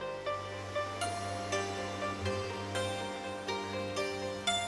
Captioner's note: relaxed music continues; waterfall crashing